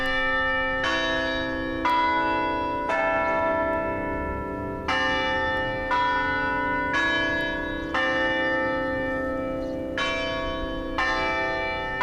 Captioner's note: bells tolling